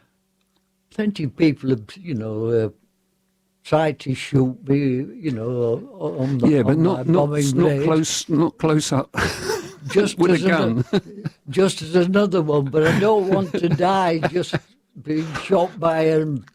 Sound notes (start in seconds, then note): 9.1 laughter